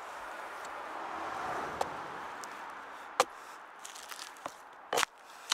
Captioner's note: chopping